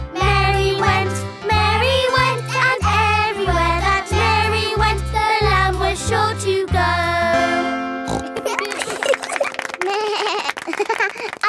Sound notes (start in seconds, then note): 8.0 snorts; 8.1 laughing; 9.9 bleats and laughs